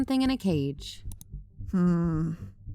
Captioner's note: click